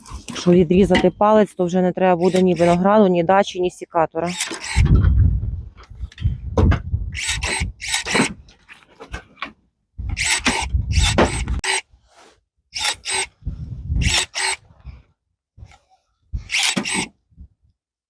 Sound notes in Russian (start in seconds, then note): 4.3 Звук секатора